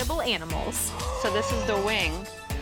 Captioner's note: gasping